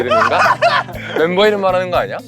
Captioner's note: shrieks of joy